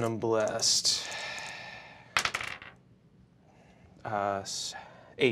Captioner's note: dice clacking